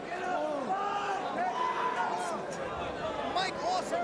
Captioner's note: crowd chattering